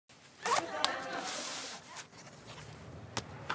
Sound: audience laughing

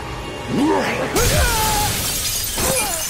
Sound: growling; screams

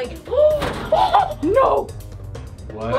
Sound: gasps

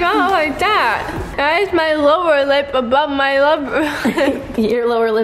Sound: laughs

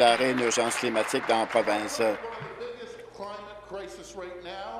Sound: applause

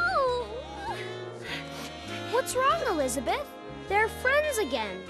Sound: sobbing

